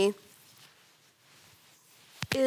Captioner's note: rustling